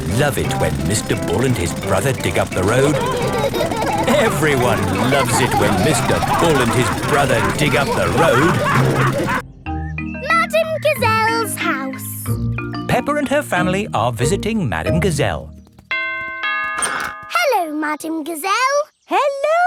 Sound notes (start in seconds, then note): 4.0 laughing; 9.0 all laughing; 15.9 doorbell rings